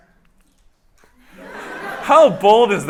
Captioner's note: laughter